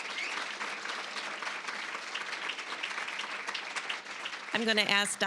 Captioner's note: applause, cheering; applause